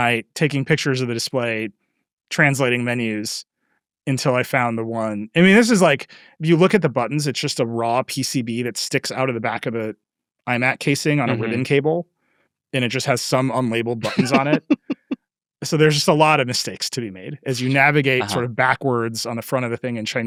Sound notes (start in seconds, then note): 12.8 laughing